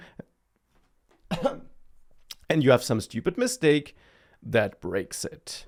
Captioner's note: coughs